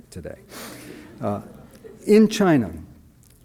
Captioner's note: audience laughs